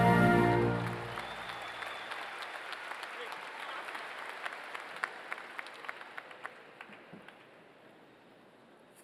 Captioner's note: applause